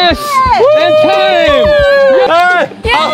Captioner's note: screaming